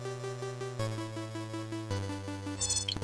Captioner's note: dash dash